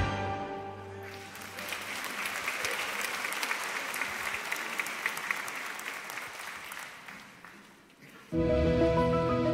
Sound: applause

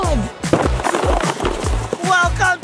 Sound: boxes clatter

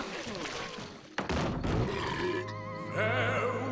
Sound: belching

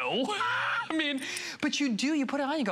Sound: laughter

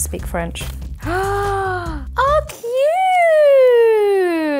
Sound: gasps

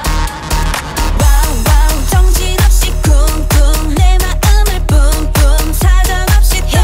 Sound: bboom bboom

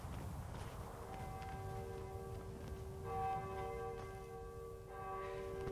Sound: distant bell tower rings

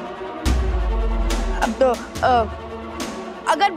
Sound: Atharva stammers

